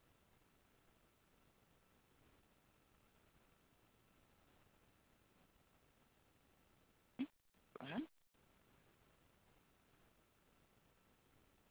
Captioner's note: silence